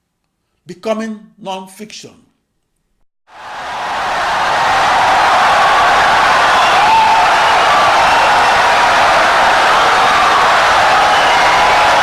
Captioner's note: wild applause and cheering for 17 seconds